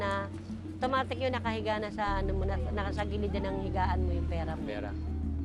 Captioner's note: speaks in foreign language